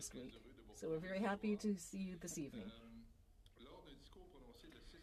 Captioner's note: speaking French